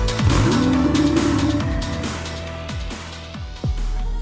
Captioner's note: engine turns on